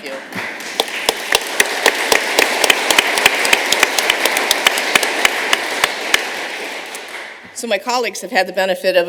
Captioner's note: applause